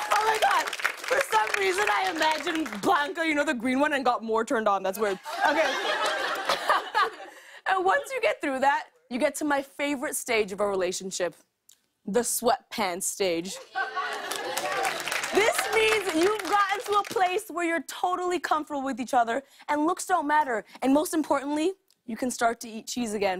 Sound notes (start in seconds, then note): 5.1 laughter; 14.0 applause